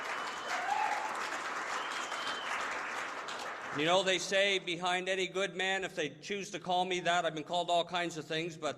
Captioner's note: applause